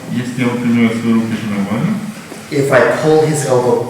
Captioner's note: speaking in a foreign language